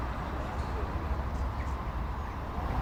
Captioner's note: city traffic noise